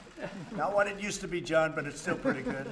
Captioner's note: laughter